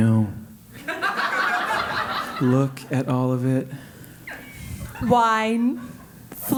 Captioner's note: laugh